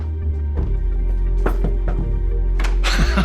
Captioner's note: hand rapping; Chuck laughs